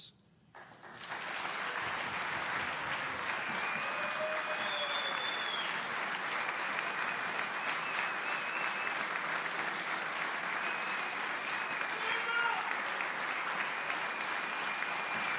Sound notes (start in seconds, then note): 5.9 applause